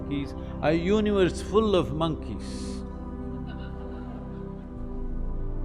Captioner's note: laughter